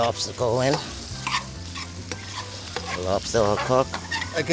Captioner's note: spoon scraping